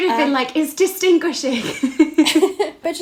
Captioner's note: both laughing